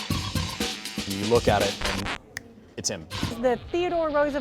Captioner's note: upbeat music; snaps fingers